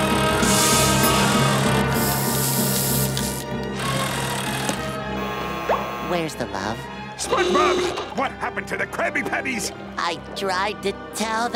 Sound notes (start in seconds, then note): none